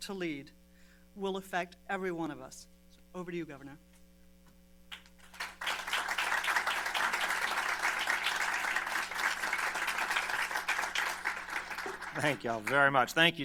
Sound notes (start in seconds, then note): 7.4 applause